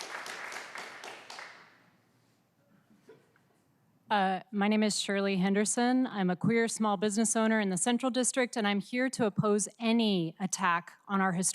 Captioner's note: applause